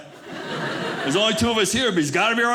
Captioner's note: audience laughing